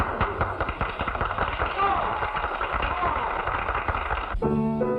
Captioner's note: applause